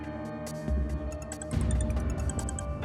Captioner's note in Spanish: Suena el celular